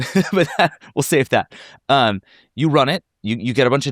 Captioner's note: laughs